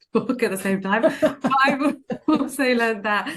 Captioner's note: laughing